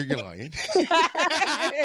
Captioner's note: both laughing